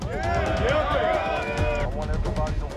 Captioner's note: crowd cheering